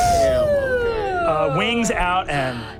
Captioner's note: screams